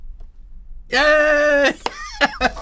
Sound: laughs

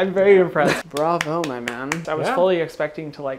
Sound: claps

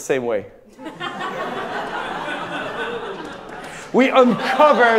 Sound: audience laughing

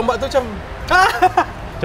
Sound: pretending to laugh at first

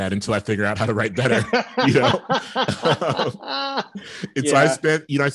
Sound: laughing

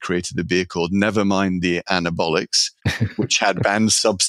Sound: laughing

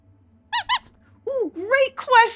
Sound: squeaks squeaking

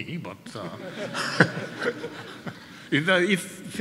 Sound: audience laughing

